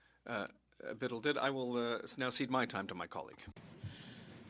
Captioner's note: speaking French